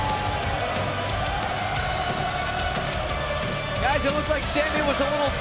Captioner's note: crowd cheering